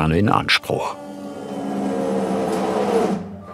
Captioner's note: machine noises